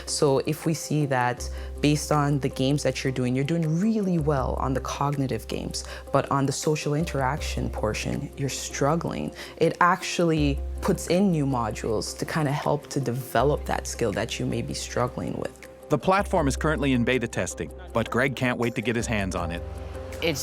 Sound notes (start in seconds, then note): 16.1 voiceover